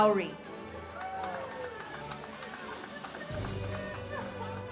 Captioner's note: audience cheers